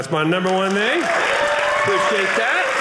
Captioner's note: audience cheering